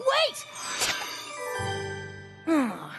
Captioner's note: tinkling